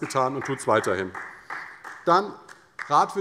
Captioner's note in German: Beifall